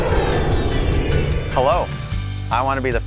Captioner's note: airplane soaring